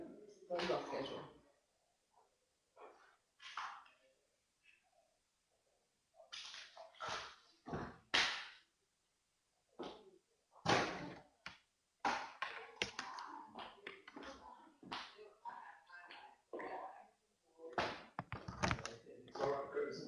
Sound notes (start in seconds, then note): 9.2 silence